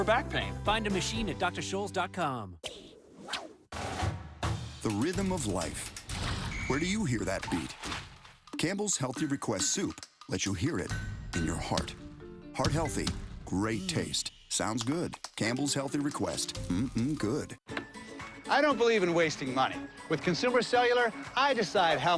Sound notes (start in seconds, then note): 2.7 fishing rod casting line, marching band playing; 6.5 whistle blowing; 10.8 basketball bouncing; 12.5 tapping